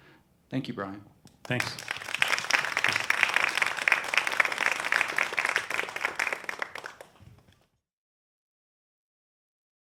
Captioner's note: applause